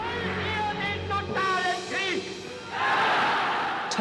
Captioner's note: speaking German